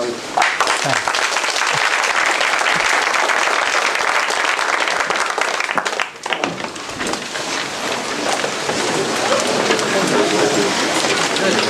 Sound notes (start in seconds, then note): 0.3 applause; 5.7 background chatter